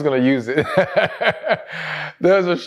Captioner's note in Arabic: يضحك